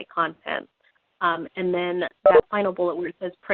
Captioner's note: beeping